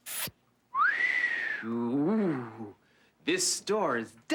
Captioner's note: LeVar whistles